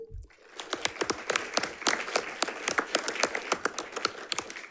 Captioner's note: audience applauds